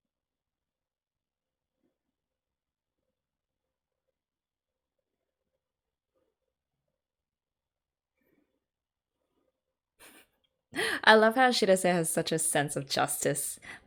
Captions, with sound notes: [laughs] I love how Shirase has such a sense of justice.